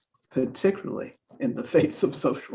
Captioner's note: laughs